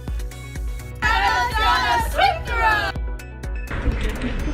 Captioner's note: chanting; upbeat music